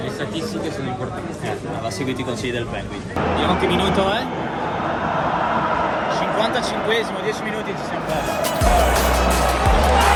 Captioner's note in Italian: Applauso